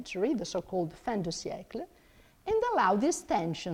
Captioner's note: speaks in foreign language